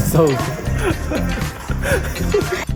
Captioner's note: conversation among the kids